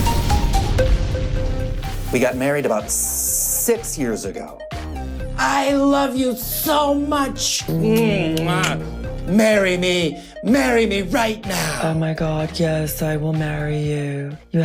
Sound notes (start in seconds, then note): 8.3 kisses